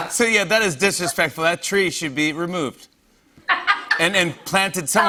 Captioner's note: laughs